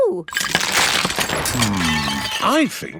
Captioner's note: cracking